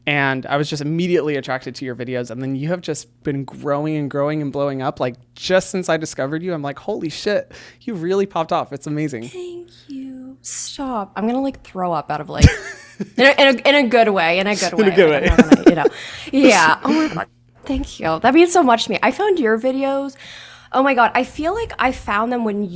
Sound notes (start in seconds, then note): 12.4 laughs; 14.5 laughs